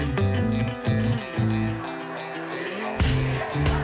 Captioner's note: crowd